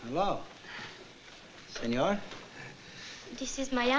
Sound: italian

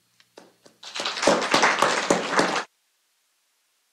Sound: applause

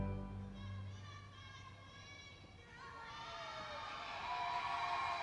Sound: audience members shouting; audience cheering

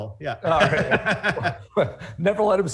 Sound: laughs

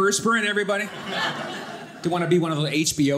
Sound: audience laughing

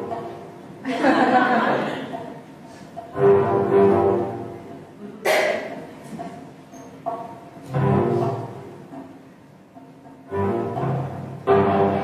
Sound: laughs

